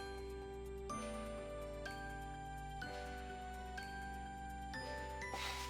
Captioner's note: sigh